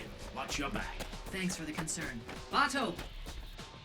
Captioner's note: over comms